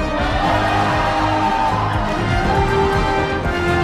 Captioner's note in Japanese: 歓声